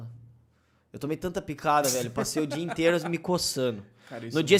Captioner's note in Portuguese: Risos